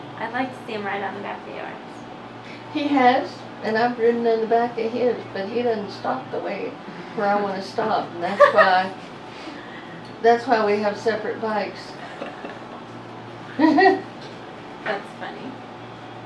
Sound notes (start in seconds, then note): 11.9 laughing